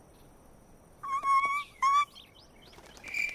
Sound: whimper; crickets

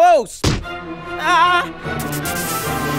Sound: kiss smacks

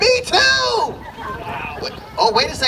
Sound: laughter

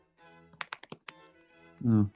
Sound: typing on keyboard

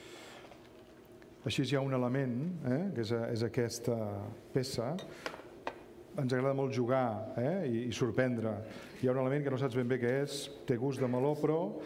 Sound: speaking catalan

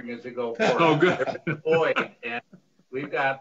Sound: laughs

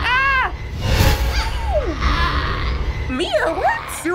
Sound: woman croaks

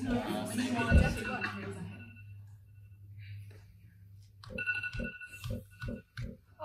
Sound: phone alarm goes off

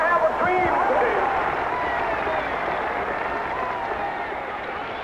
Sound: cheers

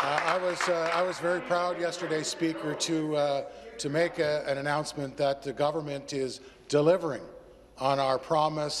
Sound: some Applause

